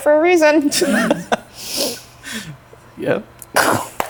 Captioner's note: laughing